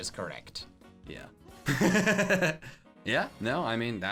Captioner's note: laughs